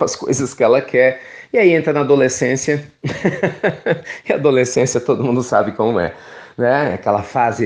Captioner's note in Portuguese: risos